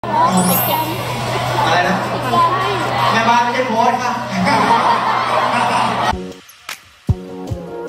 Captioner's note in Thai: ปรบมือ